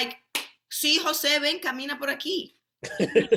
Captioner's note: speaking Spanish; laughing